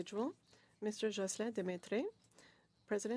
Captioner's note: speaking French